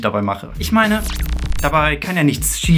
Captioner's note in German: glitching